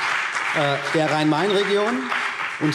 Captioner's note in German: Beifall BÜNDNIS 90/DIE GRÜNEN und vereinzelt CDU